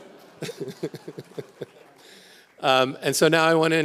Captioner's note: people laugh